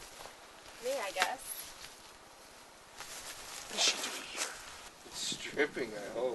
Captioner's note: whispers